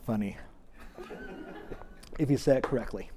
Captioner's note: audience laughs